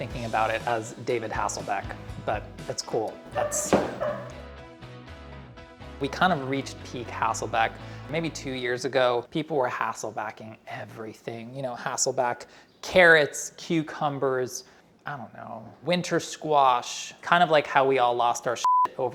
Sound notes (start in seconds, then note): 3.6 woman laughs